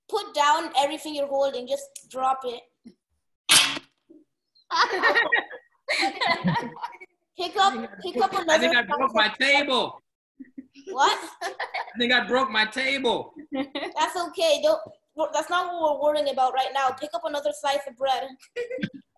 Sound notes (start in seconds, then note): 3.5 dropping; 5.8 laughing